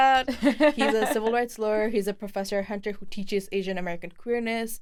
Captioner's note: laughs